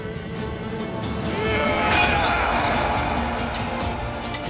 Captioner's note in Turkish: Dövüşme sesleri